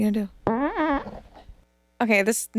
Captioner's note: fart whooshes